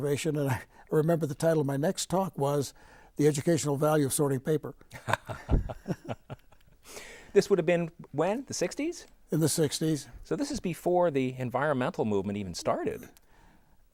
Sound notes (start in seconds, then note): 5.0 laughing